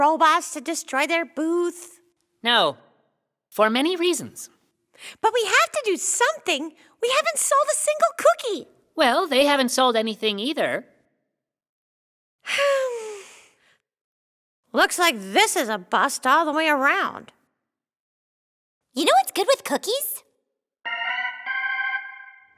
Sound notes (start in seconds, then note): 12.5 sigh; 20.8 organ music